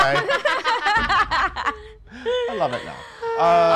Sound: laughing

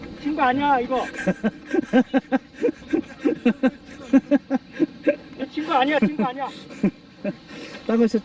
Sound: laughing

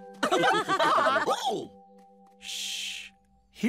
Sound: laughter

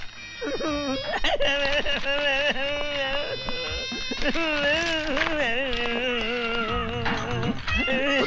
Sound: crying

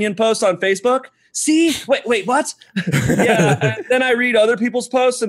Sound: laughter

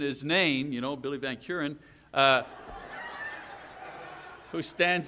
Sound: audience laughs

